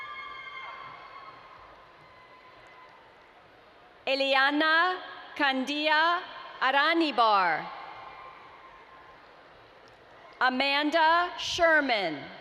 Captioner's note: Family screaming “yeah Lauren!”